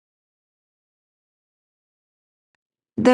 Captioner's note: silence